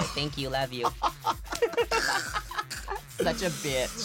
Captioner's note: laughs